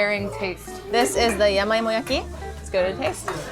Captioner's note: speaking foreign language